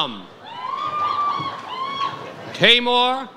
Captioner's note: audience cheers